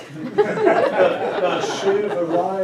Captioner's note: audience laughing